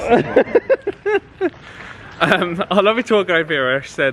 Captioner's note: laughing